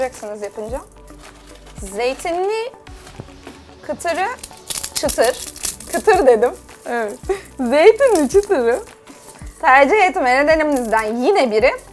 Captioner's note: giggles